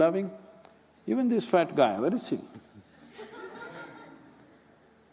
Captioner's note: few laugh